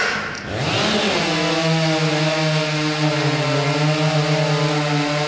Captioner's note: chainsaws buzzing